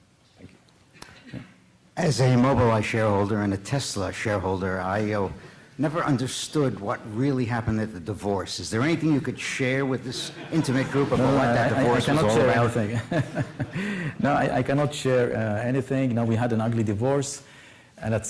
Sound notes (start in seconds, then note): 12.1 laughter